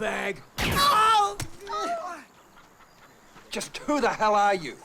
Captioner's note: gun fires; man on red motorcycle cries out